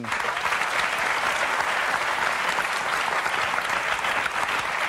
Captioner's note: audience clapping